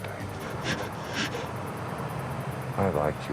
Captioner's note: bear huffing